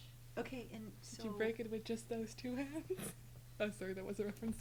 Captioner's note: laughs